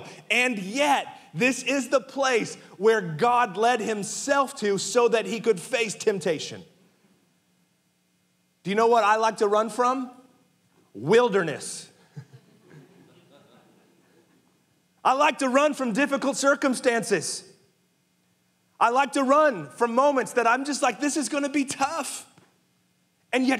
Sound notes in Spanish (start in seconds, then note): 12.0 risas; 12.0 congregantes riendo